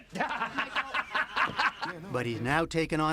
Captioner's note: laughter